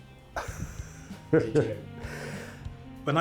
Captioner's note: laughing